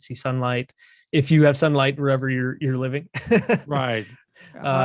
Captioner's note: chuckles